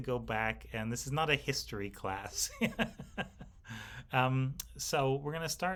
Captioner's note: laughs